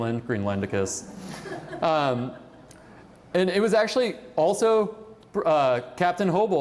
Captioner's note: laughter